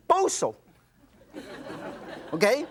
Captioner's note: audience laughs